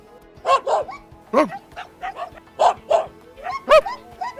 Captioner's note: dogs barking; man imitates dog barking